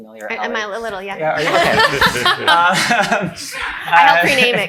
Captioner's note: laughs